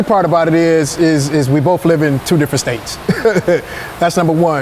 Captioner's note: laughing